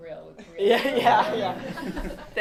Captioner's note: laughter